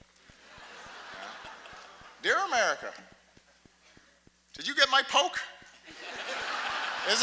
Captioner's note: laughter